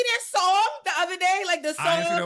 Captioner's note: laughing; beep